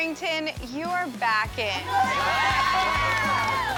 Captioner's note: cheering